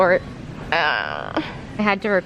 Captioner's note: reaching noises